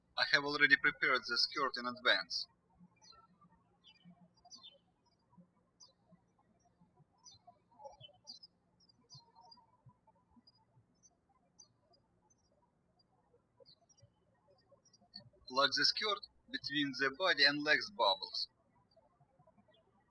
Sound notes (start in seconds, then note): 0.0 birds chirping; 5.1 birds chirping; 19.4 birds chirping